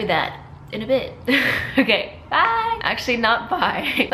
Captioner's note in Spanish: risas